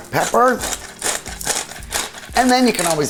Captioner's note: pepper crunching